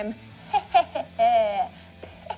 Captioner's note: laughs maniacally